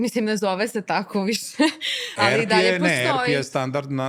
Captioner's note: laughs